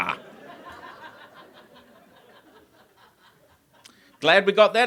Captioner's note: audience laughs